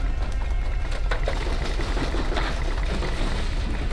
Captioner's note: rattling and clattering